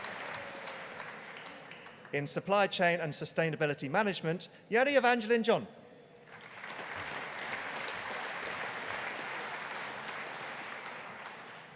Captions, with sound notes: In Supply Chain and Sustainability Management, Jeni Evangelin John. (AUDIENCE APPLAUDING)